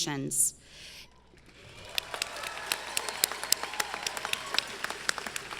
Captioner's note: audience clapping